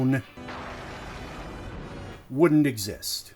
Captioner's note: thunder